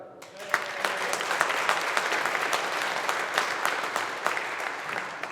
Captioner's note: audience applauding